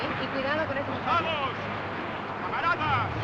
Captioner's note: speaking Spanish; man Shouting In Spanish